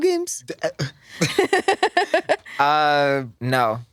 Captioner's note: laughs